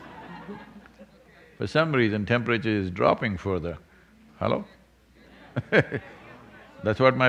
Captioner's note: laughter; laughs